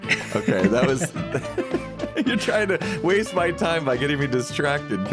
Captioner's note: laughs